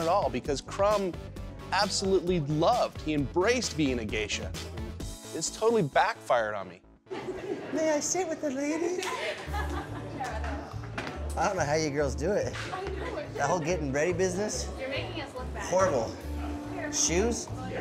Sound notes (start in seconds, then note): 7.7 bad japanese accent